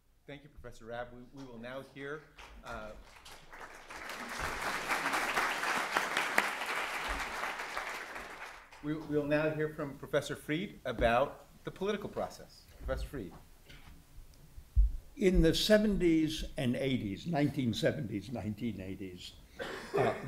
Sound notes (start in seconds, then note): 2.2 applause